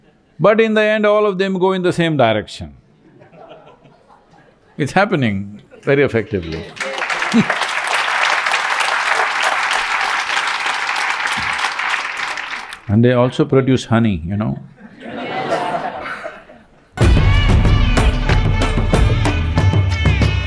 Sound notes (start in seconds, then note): 10.7 applause; 14.6 laughter